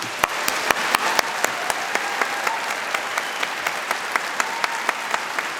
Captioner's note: applause